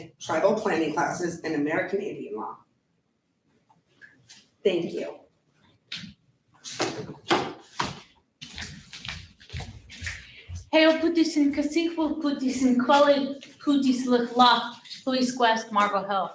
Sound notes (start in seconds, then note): 10.8 speaking in foreign language